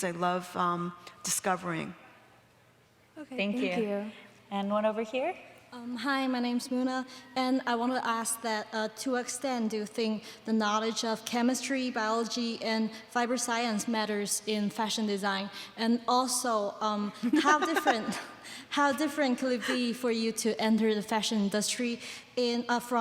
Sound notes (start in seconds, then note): 17.2 Anna laughs